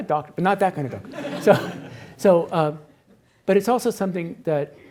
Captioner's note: attendees laughs